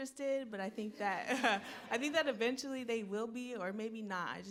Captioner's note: laughs